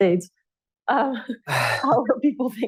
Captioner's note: laughter